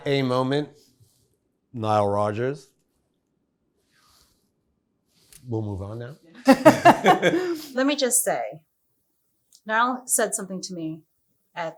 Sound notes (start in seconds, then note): 6.4 laughs